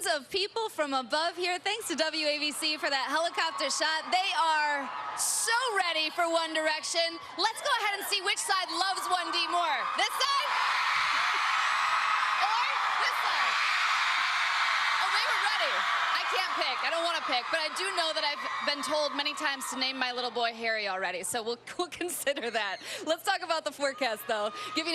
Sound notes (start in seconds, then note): 15.5 cheers and applause